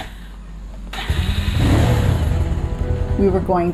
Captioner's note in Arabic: يعمل المحرك مرة أخرى